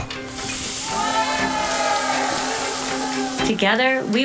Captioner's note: children cheering